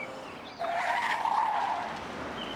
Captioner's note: tyres squeal